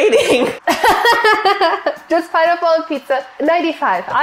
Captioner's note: laughs